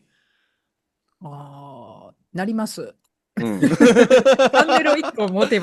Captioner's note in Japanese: 笑い